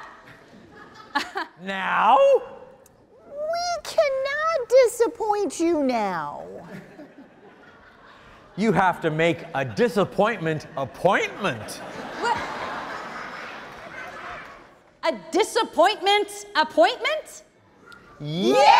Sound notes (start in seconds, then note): 10.2 audience laughing